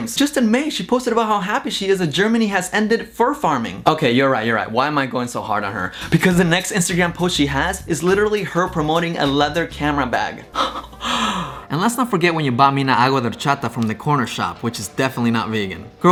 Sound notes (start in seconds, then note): 10.5 laughs